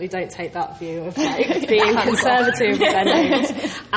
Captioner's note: laughs